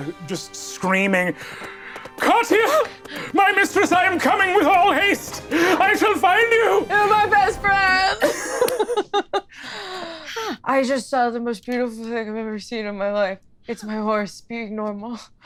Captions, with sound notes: Just screaming, Katja, my mistress I am coming with all haste. I shall find you! - You are my best friend. (laughs) I just saw the most beautiful thing I've ever seen in my life. It's my horse, being normal.